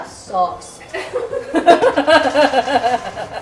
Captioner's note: laughter